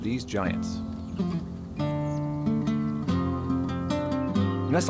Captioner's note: birds chirping; gentle music